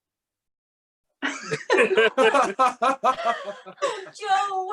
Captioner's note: laughter